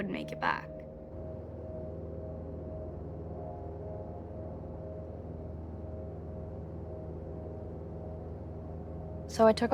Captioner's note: airplane hums